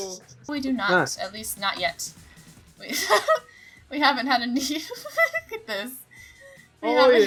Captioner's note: giggle